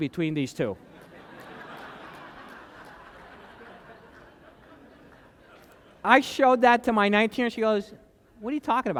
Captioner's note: laughter